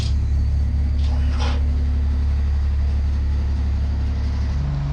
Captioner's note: engine running